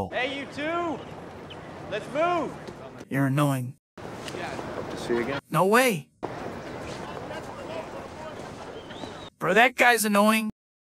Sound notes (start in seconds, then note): 4.8 sarcastically